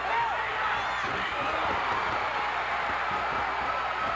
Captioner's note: crowd cheers